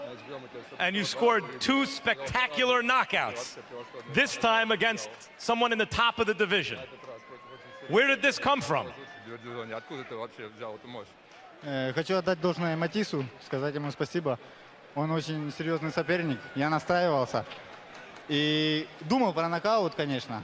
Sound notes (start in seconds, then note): 11.2 speaking Ukrainian